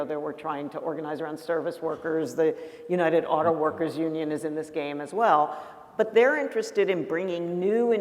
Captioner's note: none